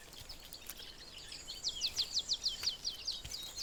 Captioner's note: birds chirping